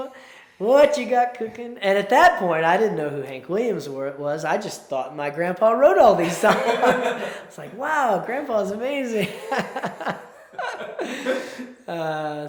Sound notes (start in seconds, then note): 6.5 laughs; 9.2 laughs